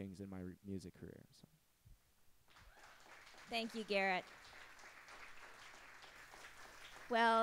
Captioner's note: applause